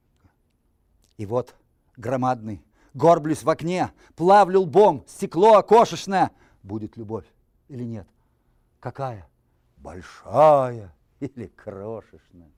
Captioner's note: reciting poem in Russian